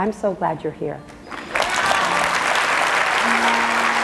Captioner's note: applause